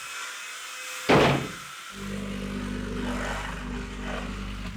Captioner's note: wall thumping